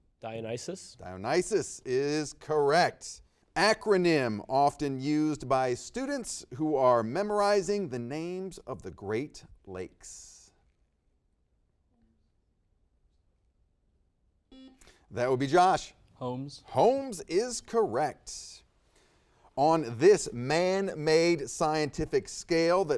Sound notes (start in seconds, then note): 14.6 buzzer beeps